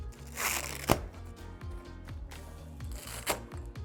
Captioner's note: velcro ripping